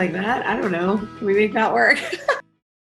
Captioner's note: laughs